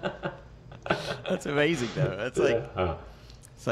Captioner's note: laughing